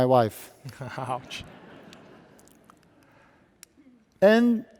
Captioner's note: audience laughing